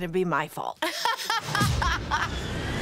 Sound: laughs

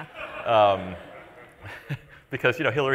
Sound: laughter

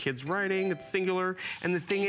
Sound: foreign language

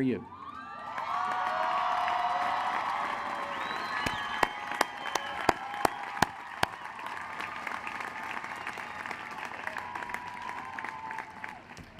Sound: cheering and applause

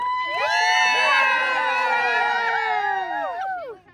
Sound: group cheers

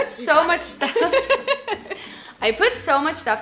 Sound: laughing

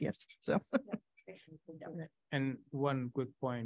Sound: chuckling

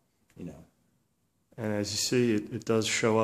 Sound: voiceover

